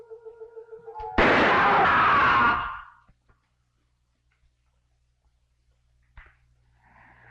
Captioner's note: Pepe screaming; gunshot booming